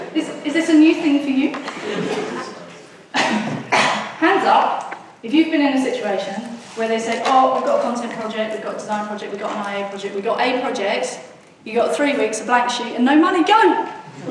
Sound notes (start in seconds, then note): 1.5 audience muttering